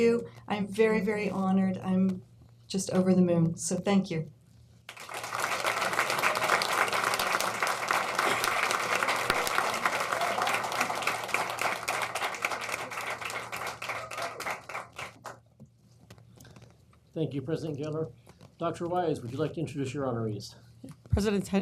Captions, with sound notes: SO THANK YOU. I'M VERY, VERY HONORED. I'M JUST OVER THE MOON. SO THANK YOU. (APPLAUSE) THANK YOU, PRESIDENT GEHLER. DR. WISE, WOULD YOU LIKE TO INTRODUCE YOUR HONOREES.